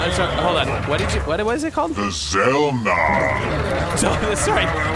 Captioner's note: laughing; guards cheer again